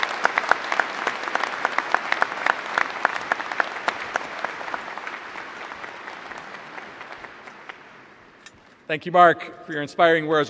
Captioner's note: applause